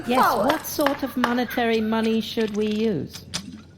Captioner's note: gavel bangs